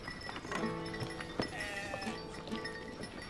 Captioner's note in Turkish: Çan sesleri